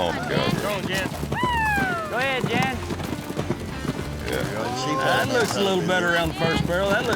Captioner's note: cheering